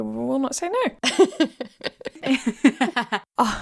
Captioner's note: laughing